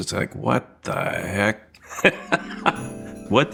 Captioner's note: laughing; bright music